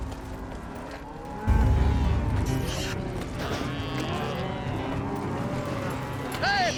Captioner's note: cattle moo